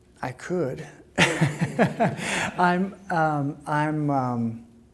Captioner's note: laughing